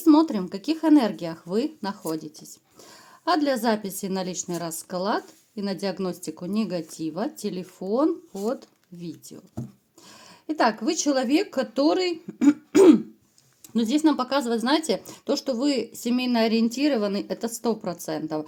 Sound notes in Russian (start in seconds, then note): 12.3 откашливается